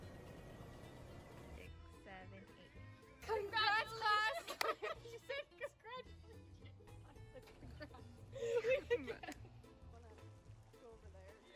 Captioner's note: laughter